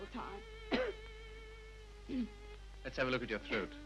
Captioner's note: coughs